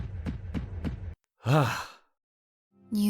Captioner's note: deep breath